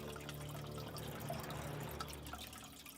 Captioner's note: water gurgling